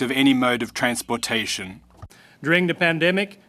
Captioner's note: speaking French